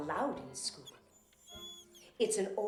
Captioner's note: dog whimpering